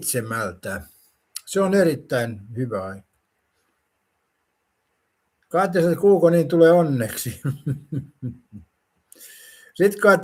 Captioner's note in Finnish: naurua